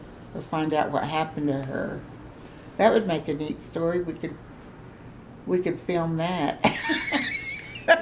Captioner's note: laughs